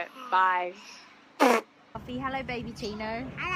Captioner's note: spits